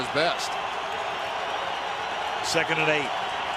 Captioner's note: cheering